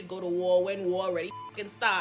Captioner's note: beep